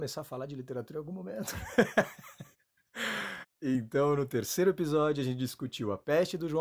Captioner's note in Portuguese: Risos